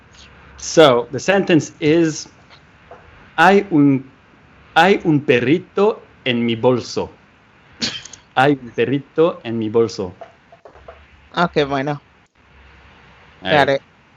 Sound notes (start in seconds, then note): 4.3 Spanish; 11.5 Spanish